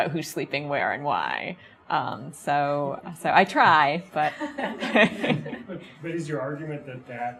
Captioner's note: chuckles; audience chuckles